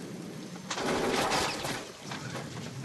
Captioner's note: gunfires